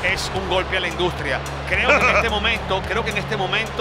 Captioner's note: laugh